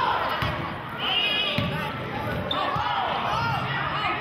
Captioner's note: yelling